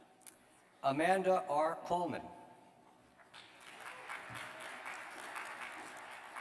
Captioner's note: applause